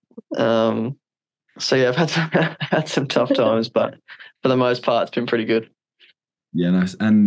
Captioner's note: laughs